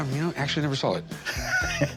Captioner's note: laughs